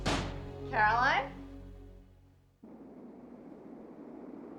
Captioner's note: door slams